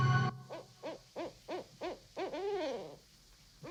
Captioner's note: owl cooing